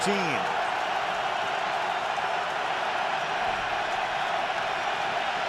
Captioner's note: cheering